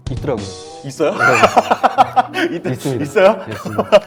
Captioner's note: laughing